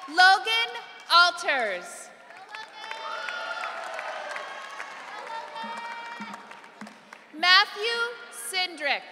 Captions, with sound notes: Logan Alters. (audience cheering) Matthew Syndrick.